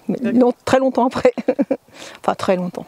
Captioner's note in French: Rires